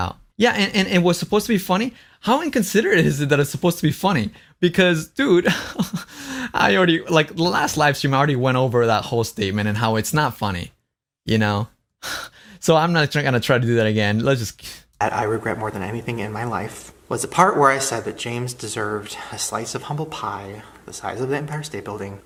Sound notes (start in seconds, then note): 5.4 laughs